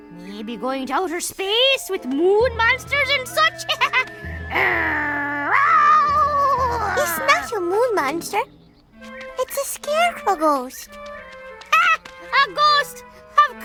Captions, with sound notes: Maybe going to outer space with moon monsters and such? (growling) - It's a not a moon monster, it's a scarecrow ghost. - Ha, a ghost, of course.